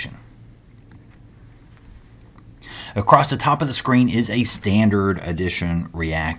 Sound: turn page

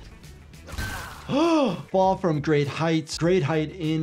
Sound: gasps

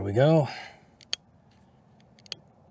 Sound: click Sound

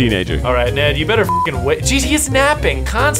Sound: beep

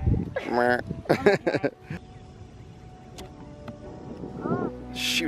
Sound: cameraman laughs

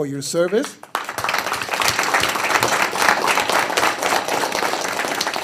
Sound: audience applauding

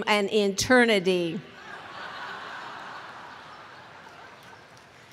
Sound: laughter

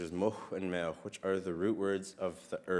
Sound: speaks in Sk1wx1wu7mesh

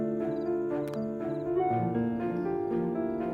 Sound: phone chimes

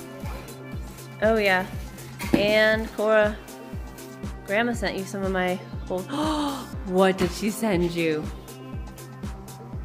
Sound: gasp

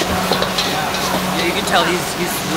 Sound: food frying loudly

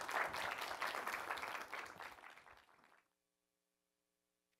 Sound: applause

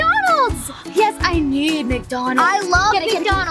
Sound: gasps

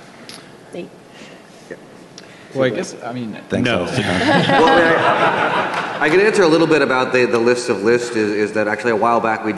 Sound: laughing

